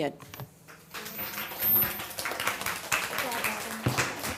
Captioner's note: audience clapping